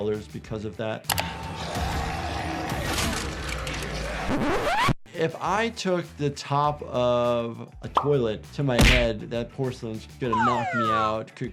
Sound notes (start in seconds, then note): 1.6 zombie growling; 4.3 disc scratching